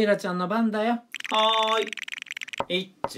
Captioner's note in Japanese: ルーレットの音